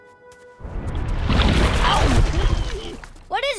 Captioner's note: grunting